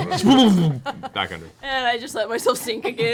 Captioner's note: laughter